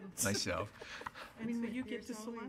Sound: laughter

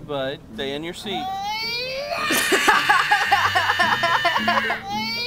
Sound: laughs

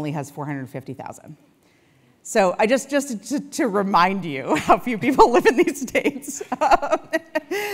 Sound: laugh

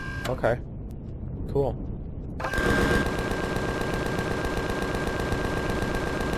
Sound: machine guns continue

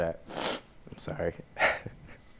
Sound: sniffs

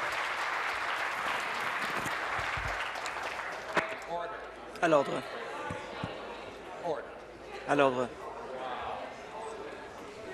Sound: applause

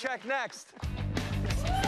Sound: cheers and applause

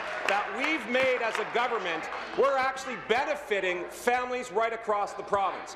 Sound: applause

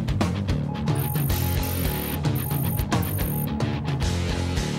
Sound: fast-paced rock music; machine beeping

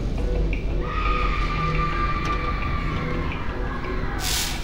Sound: scream

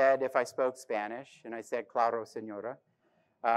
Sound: speaks in foreign language

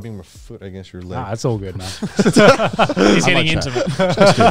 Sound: all laughing

